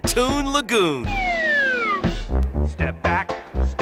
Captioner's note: whistle rising